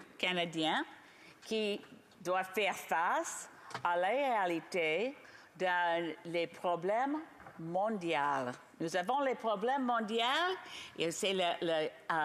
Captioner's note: speaking French